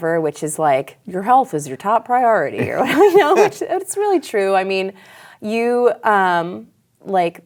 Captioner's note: laughs